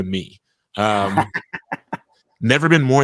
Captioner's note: laughing